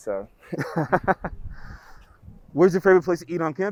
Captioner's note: laughs